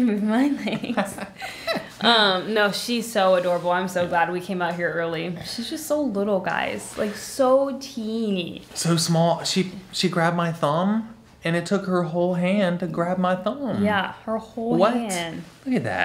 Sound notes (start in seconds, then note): 0.6 laughing